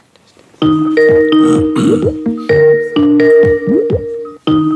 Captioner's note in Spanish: Sonido de llamada de Skype